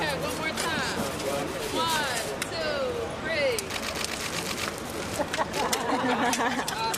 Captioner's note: laughter